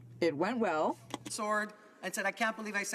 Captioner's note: speaking french